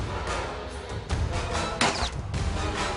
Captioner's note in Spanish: Disparos